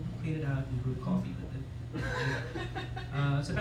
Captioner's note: laughter